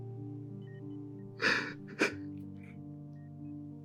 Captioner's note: deep sigh